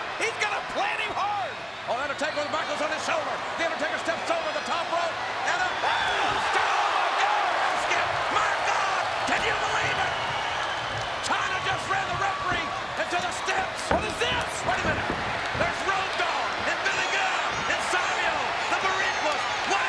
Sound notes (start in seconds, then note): 6.5 crowd cheers